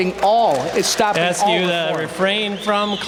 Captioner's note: applause